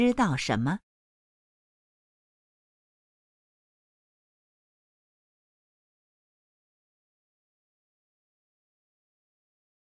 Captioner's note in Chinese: 空白_音频